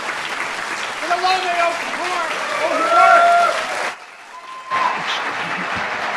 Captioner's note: audience cheers and shouts